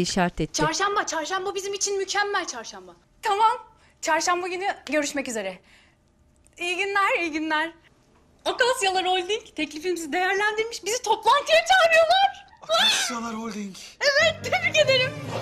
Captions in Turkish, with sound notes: Çarşamba, çarşamba bizim için mükemmel, çarşamba. Tamam, çarşamba günü görüşmek üzere. İyi günler, iyi günler. Akasyalar Holding teklifimizi değerlendirmiş. Bizi toplantıya çağırıyorlar. -Akasyalar Holding? (Çığlık sesi) Evet, tebrik ederim.